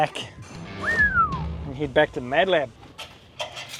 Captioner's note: whistles